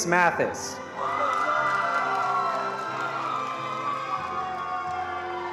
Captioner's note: attendees applauding